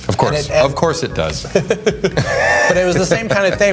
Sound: que treys laugh

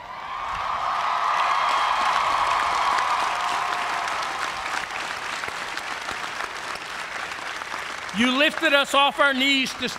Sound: cheers and applause

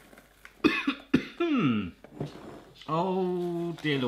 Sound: coughs

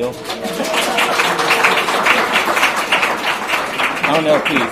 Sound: audience applauds

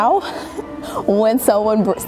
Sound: laughs

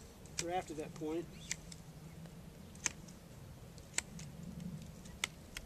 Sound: snipping

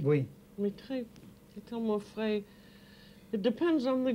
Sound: speaking French

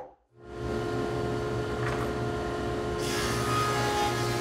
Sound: air fan whirs; saw zings

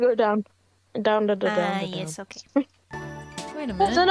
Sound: laughs

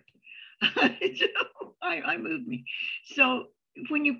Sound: chuckles

